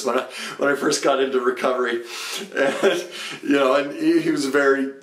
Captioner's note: laughs